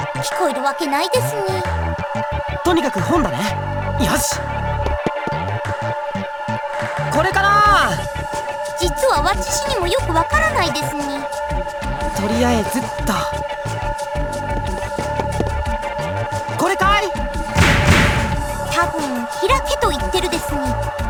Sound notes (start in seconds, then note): 16.6 shout